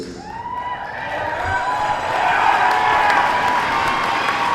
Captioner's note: crowd cheers